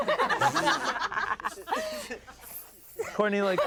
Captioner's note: everyone laughs; laughs